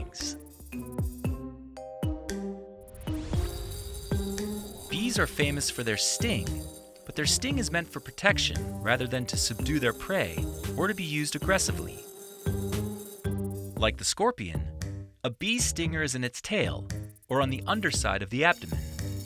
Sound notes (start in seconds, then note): 0.2 light music; 12.0 bee buzzing; 12.0 light music